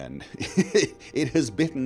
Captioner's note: laughter